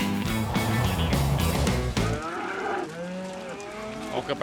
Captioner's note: cattle moo